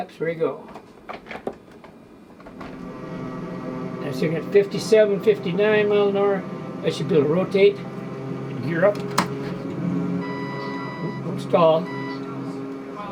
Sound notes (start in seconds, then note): 2.8 airplane humming; 8.9 button clicks; 10.2 alarm chiming